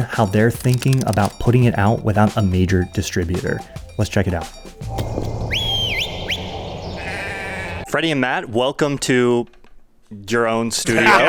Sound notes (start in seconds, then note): 4.9 shepherd whistling; 6.9 sheep bleating; 10.8 laughs